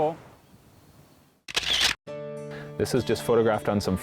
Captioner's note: sound of camera clicking